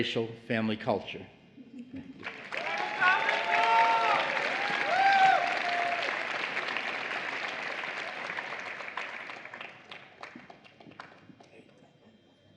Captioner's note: applause